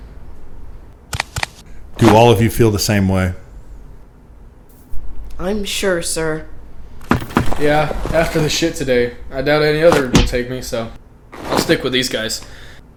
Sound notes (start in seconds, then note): none